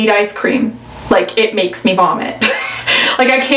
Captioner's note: laughs